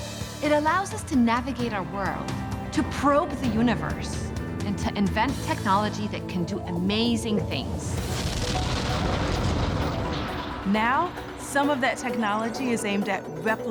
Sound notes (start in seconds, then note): 8.0 spacecraft engines igniting